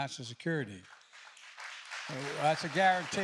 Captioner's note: applause